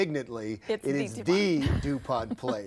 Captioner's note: laughs